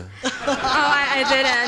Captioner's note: laughing